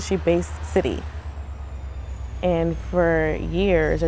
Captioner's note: train brakes squeal